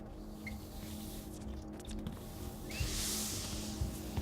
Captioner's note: soft music; broom sweeping